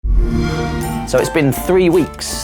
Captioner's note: xbox sound